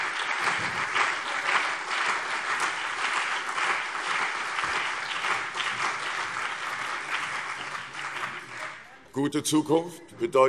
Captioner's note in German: Beifall CDU und BÜNDNIS 90/DIE GRÜNEN